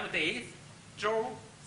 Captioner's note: speaks Chinese